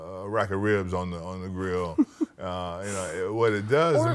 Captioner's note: laughs